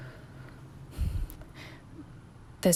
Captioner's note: weary exhale